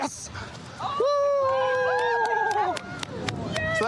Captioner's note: cheering